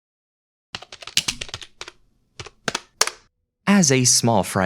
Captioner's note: keyboard clacking